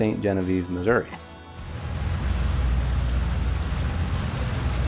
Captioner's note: water rushing